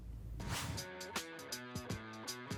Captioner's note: air whooshes; upbeat music